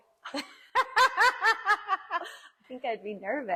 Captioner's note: laugh